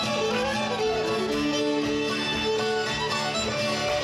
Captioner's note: audience cheers